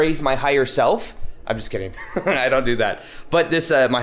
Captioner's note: chuckles